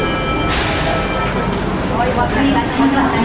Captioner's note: station ambience - crowd